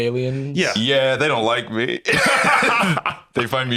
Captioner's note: Tom laughs